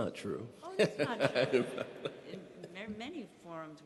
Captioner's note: laughing